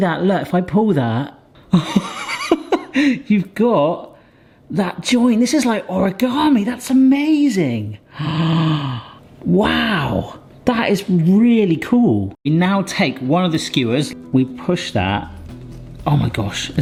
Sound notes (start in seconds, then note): 1.7 person laughing; 8.1 person gasping